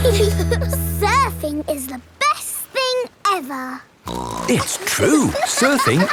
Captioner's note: giggle; snorts